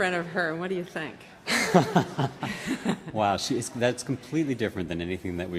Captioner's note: laughing